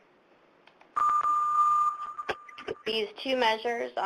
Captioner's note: loud tone